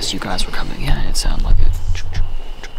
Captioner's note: steps